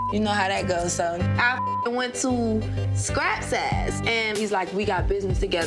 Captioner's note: beep